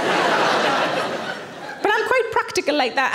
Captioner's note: audience laughing